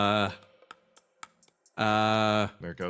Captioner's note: teeth Clacks